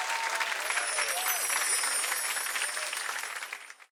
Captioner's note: audience cheering and clapping; bells chiming